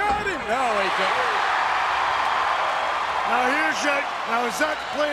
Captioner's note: audience cheers